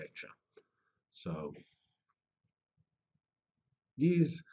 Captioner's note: pause